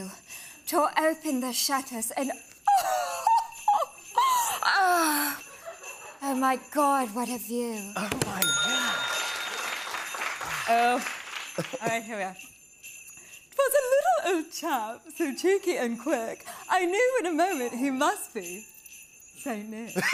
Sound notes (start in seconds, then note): 2.7 laughs; 7.8 bell dings; 9.6 normal voice